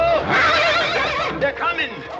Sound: horse whinnies

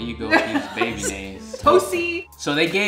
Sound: laughing

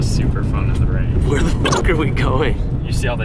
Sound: beep

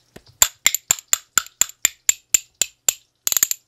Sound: clacking

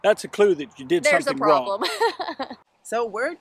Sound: laughs

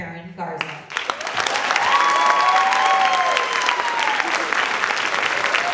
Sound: audience clapping and cheering

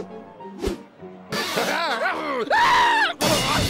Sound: laughs maniacally; screams

